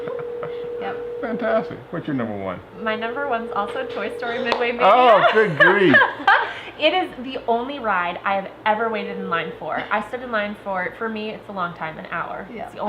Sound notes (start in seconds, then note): 6.3 laughter